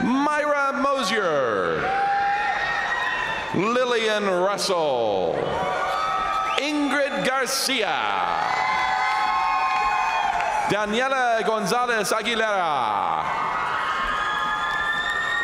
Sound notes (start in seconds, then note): 0.0 crowd cheering; 1.8 crowd cheering; 5.1 crowd cheering; 8.2 crowd applauding; 8.2 crowd cheering; 13.6 crowd cheering